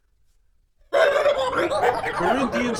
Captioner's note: angry honking